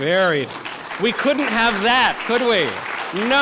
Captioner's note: audience applause